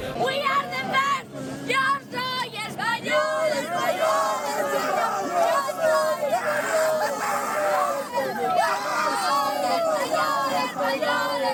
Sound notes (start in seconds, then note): 7.1 in Spanish